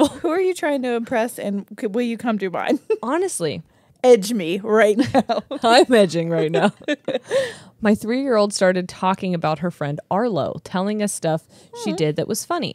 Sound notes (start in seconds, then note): 5.0 giggle